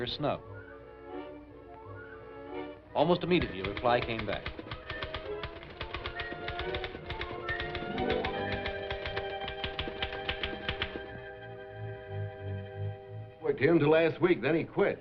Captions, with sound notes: Snub. Almost immediately, a reply came back. [TYPING] [SUSPENSEFUL MUSIC] Worked here until last week. Then he quit.